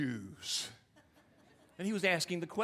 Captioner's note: audience laughing